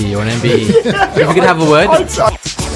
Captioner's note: all laughing